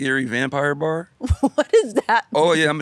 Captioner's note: laughs